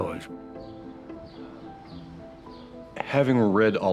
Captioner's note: birds chirping